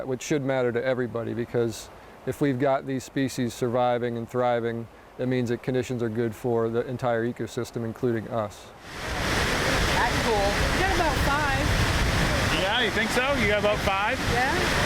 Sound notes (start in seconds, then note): 8.8 water splashing